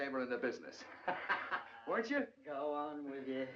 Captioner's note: laughing